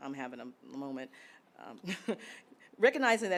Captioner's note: chuckles